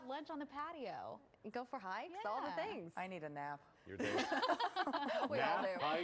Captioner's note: laughter